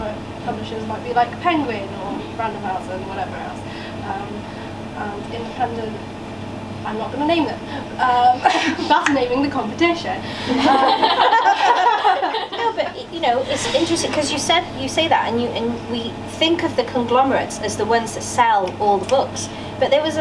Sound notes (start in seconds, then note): 10.4 laughter from audience